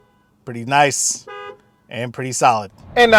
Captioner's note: vehicle hooting; car hooting